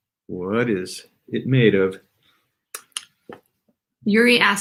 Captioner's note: none